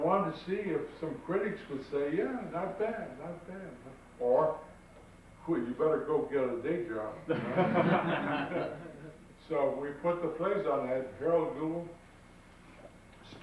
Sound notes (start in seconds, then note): 7.3 audience laughs